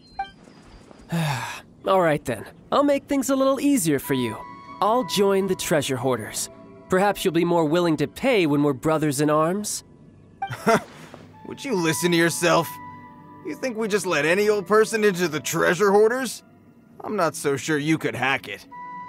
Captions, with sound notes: *sigh* Alright then, I'll make things a little easier for you. I'll join the Treasure Hoarders. Perhaps you'll be more willing to pay when we're brothers-in-arms? Huh! Would you listen to yourself!? You think we just let any old person into the Treasure Hoarders? I'm not so sure you could hack it...